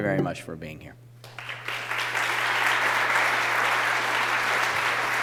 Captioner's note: applause